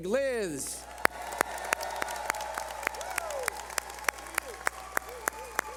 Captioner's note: cheering